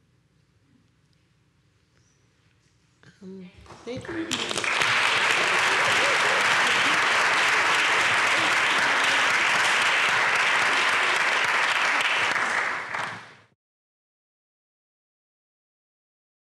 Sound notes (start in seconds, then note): 4.0 applause